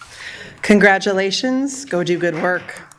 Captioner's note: speaking spanish